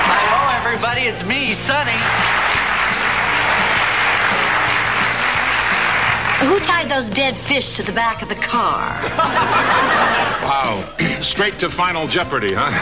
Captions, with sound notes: Hello everybody, it's me, Sonny. (audience applauding) Who tied those dead fish to the back of the car? (audience laughing) Wow, straight to Final Jeopardy, huh?